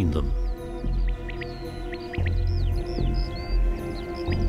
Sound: birds twitter

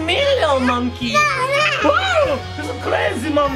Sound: growls

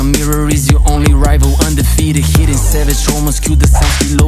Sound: slap

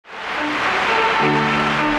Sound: violins playing; audience applauding

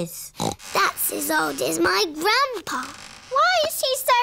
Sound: snorts

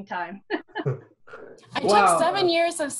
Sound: laughter

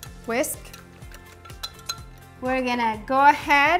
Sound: whisk clinks

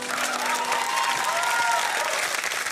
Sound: applause

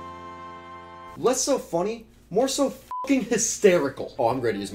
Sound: beeps

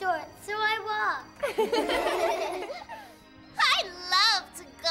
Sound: kids laughing

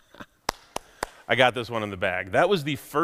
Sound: laughs; hands clapping

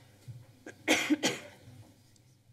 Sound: coughing

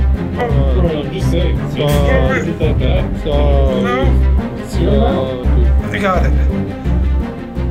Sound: distorted frat guy noises

